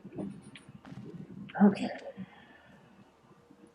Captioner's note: sighing